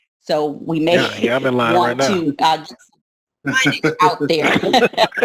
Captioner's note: laughs